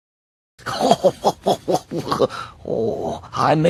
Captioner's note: laugh